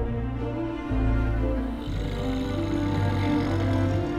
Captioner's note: man snores